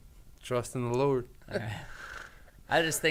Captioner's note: laughs